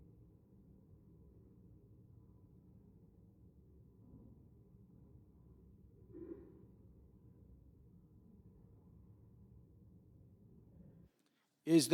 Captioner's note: silence